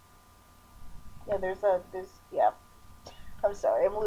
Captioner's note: chuckle